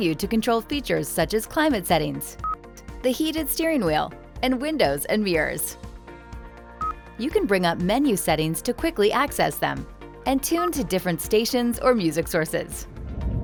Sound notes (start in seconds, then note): 6.8 vehicle beeping